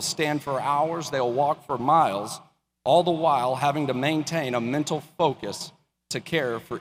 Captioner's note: none